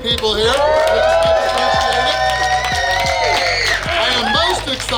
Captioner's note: cheering & Clapping